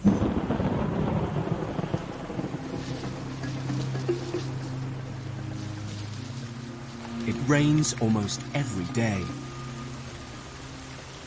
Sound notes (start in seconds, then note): 5.6 rain pattering